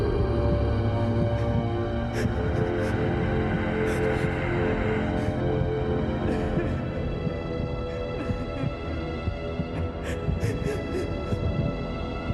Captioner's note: girl crying